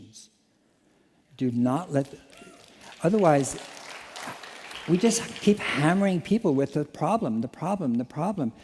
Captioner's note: applause